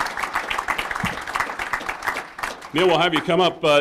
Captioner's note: applause